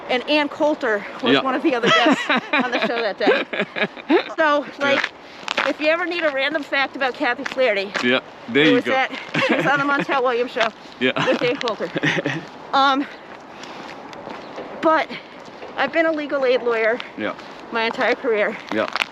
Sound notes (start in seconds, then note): 1.8 laughs; 11.0 laughs